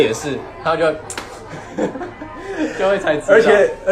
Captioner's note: slaps leg